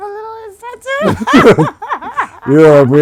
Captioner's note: laughing